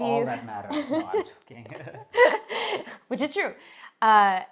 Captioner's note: chuckles